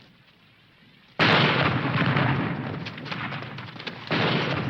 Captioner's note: bombs exploding